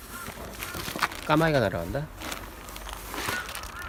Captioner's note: crow's flying~~